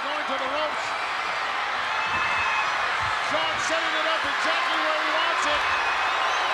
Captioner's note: applause